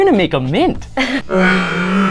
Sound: laughs; laughs in echoey slow motion

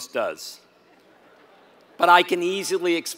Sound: laugh

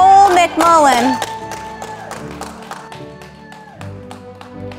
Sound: audience applauding

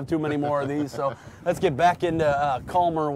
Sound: host laughing

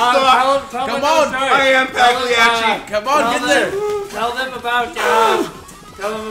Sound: laugh

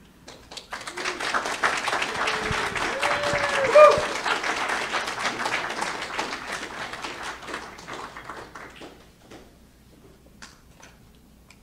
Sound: clapping

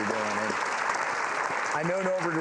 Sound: applause

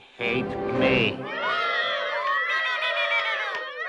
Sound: all booing

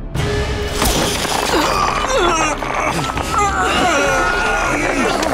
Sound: groaning

